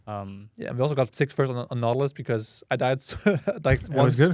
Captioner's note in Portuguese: risos